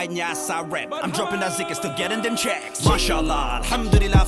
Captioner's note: non-english